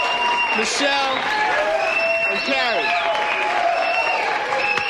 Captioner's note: Aplausos e aplausos continuam